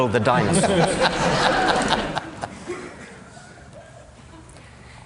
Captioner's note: laughter